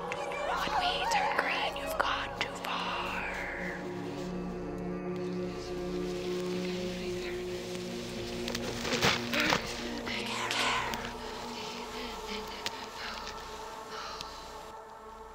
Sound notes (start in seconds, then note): 2.4 ghostly Voice; 10.1 Brigit panting